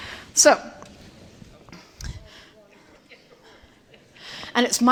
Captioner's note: indistinct chatter